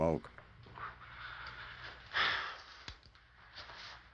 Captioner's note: sighs